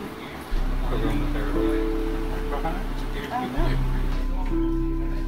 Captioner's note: lightly chattering